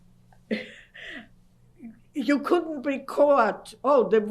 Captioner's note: laughs